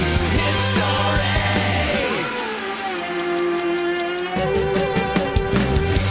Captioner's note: clock ticking